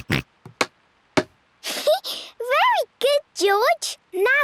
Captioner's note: snorts; giggles